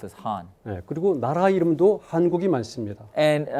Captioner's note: speaking in Korean